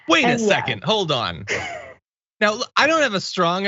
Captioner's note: laugh